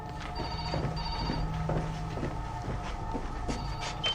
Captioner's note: phone ringing